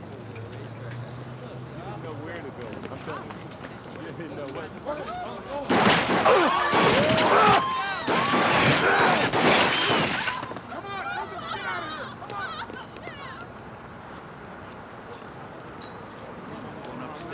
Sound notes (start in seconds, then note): 5.6 gunshots ringing